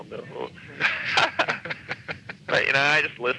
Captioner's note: laughing